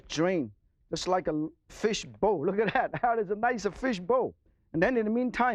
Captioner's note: laughs